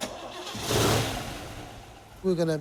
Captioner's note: engine starts